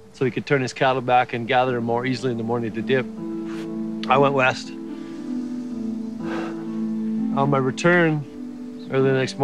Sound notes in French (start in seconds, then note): 1.3 soupir